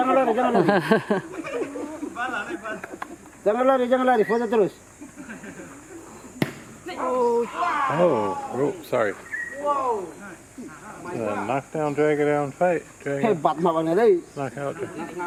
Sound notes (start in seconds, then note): 6.4 super loud tail smack; 6.4 komodo Dragon howls in response